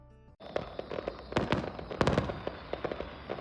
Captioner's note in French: Multiples détonations